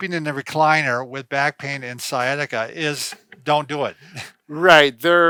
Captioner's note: laughs